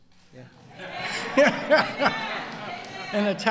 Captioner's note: laughter